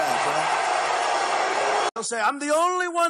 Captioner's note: crowd booing